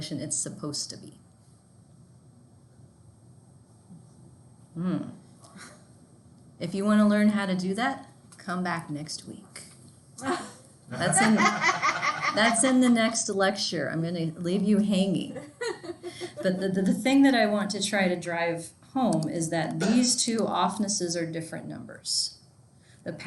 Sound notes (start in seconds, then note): 10.9 students laughing